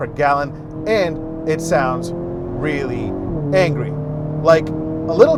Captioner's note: engine roaring loudly